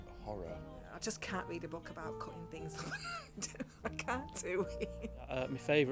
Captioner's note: laughs